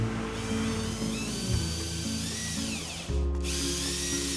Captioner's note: mechanical whirring